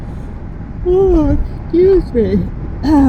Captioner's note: yawning